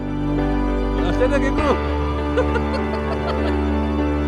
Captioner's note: lol-ing